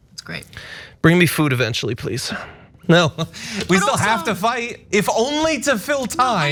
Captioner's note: laugh